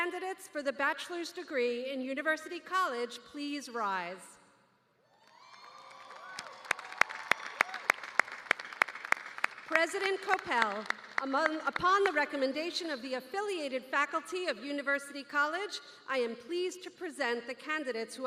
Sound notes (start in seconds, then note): 5.1 cheers and applause